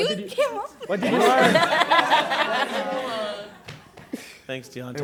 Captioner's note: laughter